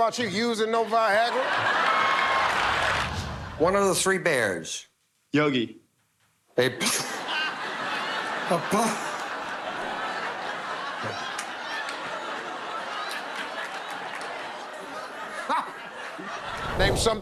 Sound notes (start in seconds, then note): 1.1 laughter; 6.4 laughs; 8.1 laughter; 15.4 laughs